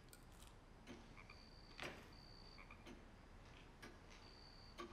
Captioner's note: clock ticking; frog croaking